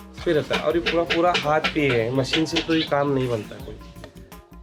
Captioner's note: speaking foreign language